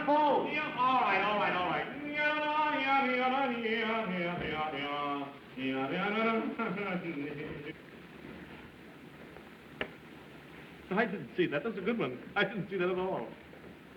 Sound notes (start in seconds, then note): 1.9 humming; 6.2 chuckles